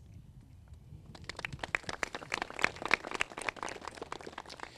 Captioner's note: crowd claps